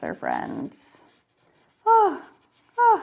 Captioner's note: pencil scraping